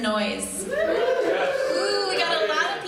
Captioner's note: audience hoots and hollers